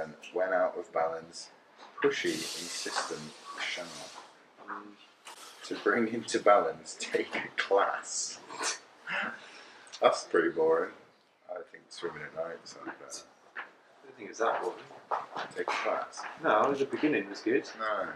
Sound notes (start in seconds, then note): 8.7 laughs